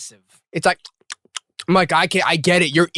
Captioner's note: munching sounds